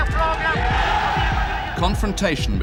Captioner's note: cheering